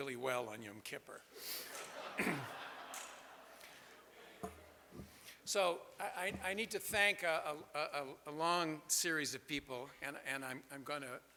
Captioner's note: laughter from audience